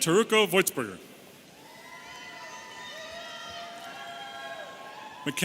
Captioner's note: audience cheering